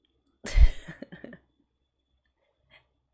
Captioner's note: laughs